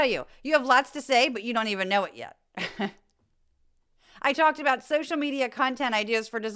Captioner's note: laugh